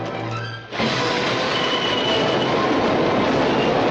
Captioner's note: train rumbling